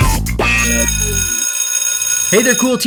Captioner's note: bell ringing